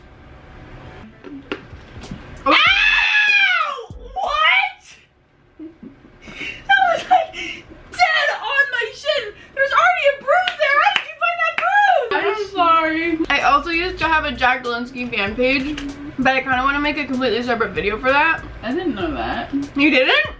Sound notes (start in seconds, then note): 2.4 screaming